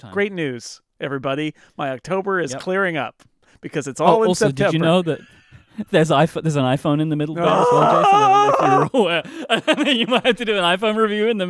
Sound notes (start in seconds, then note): 7.5 laughing